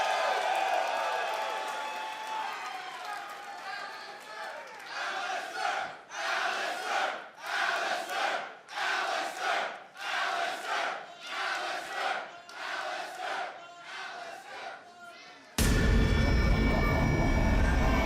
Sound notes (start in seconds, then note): 0.0 cheers and applause; 7.1 fans chanting